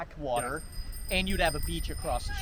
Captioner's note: bell ringing